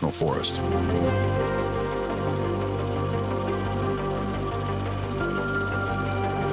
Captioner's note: reel flickering; suspenseful music continues